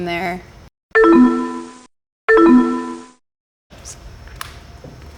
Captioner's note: chimes